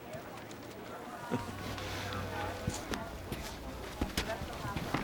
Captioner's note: chuckles